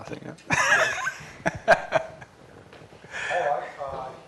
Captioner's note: laughter